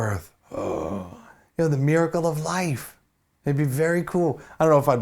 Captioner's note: gasp